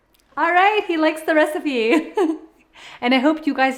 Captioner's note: laughs